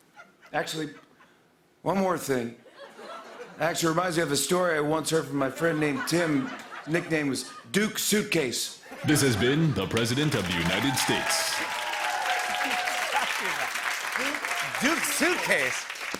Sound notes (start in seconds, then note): 11.3 cheers and applause; 12.5 laughing